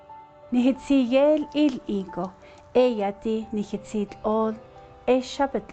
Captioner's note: presenter speaking in Navajo language